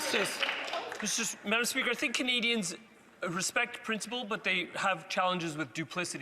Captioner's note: some Applause